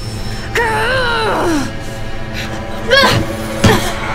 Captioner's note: grunting